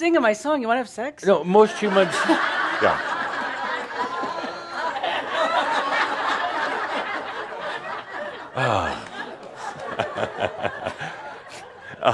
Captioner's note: lots of laughter; Adamus chuckling